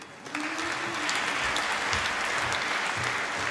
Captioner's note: applause